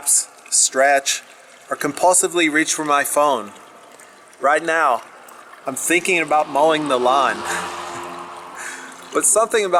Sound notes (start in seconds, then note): 7.3 laughs